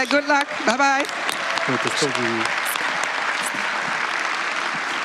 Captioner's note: applause